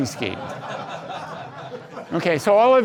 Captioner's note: audience laughs